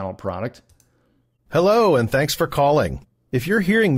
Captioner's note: voiceover